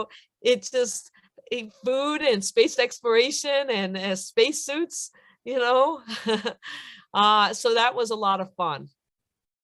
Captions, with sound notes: It's just food and space exploration and space suits. (laughter) That was a lot of fun.